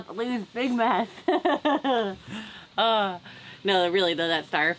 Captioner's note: laughs